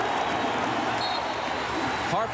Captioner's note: whistle blows